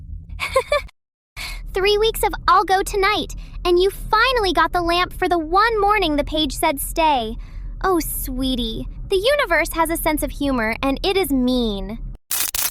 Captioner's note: laughs